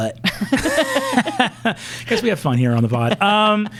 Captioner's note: laughing